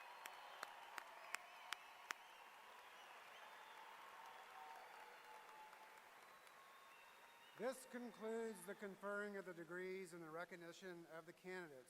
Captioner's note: cheers and applause